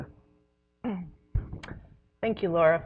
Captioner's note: clears her throat